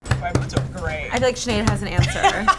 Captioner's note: tapping hands on table